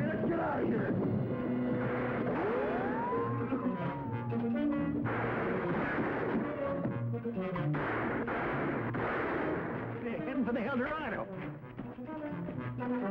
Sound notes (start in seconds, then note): 1.9 dramatic music; 4.9 guns firing; 6.8 upbeat music